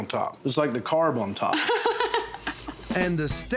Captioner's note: laughs